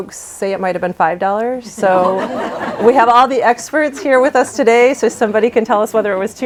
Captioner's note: laughter